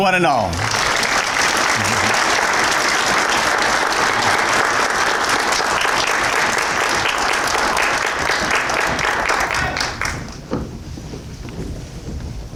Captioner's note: applause